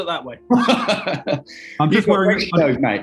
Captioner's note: laughing